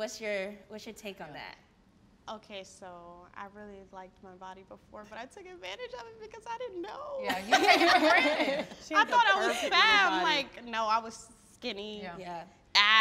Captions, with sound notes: - What's your take on that? - Okay, so, I really liked my body before, but I took advantage of it, because I didn't know. (all laughing) I thought I was fat- - She had the perfect little body. - Like, no I was skinny. - Yeah.